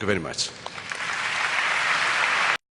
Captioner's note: applause